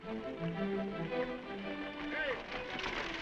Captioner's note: dramatic music; horse hooves clopping